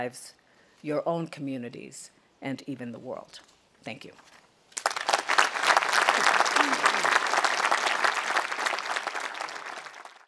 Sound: audience applauding

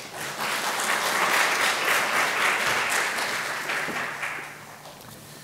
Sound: audience applauds

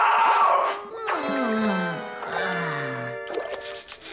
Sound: groaning

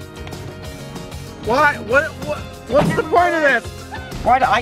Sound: upbeat music; stammers

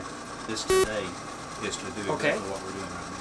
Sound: beeping

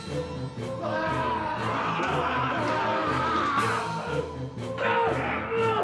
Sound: snarling; yelling

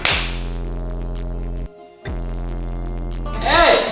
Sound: buzzing

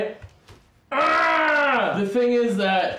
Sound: makes dinosaur noise

